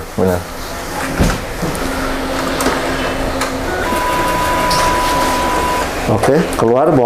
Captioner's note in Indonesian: suara mesin printer